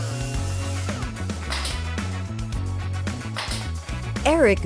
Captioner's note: nail gun clicking